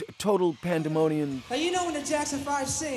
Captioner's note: soundbite of archived recording